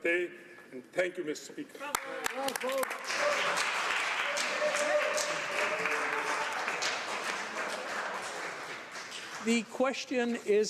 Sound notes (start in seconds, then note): 3.9 speaking Alternate Language; 8.4 some Applause